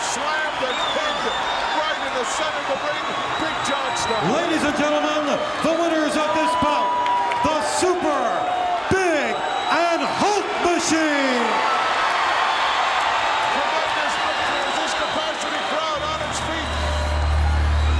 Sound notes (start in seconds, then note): 10.9 audience cheering